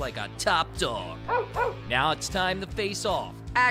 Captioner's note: dog barking